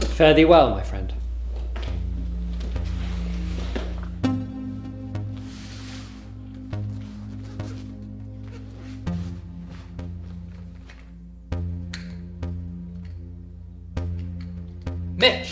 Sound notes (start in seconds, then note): 2.1 pensive synth music; 8.4 zipper clatters